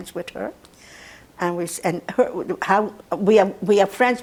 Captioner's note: mumbling